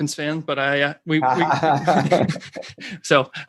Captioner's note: laughs